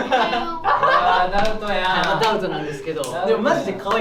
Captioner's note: laughs